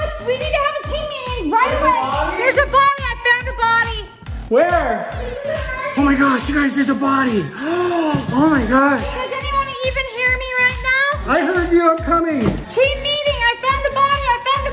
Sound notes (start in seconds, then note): 7.5 gasps